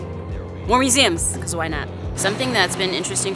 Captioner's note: car engine thrums